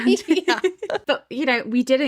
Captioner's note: both laughing